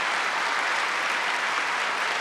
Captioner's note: applause